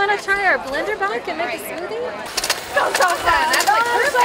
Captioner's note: bike whirs